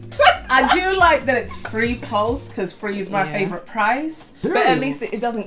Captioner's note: laughs